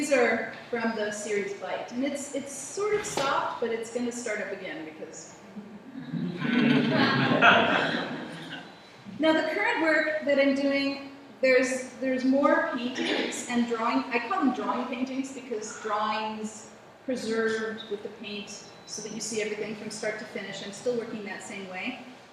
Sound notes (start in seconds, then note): 6.0 laughter